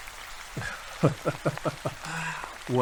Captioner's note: laugh